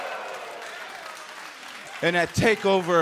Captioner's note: crowd cheering